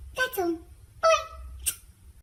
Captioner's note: smooch